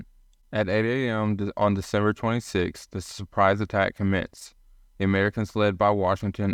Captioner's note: voiceover